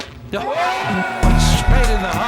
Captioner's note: crowd cheering